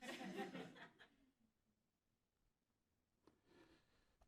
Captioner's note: audience laughing